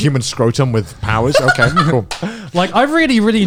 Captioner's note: laughs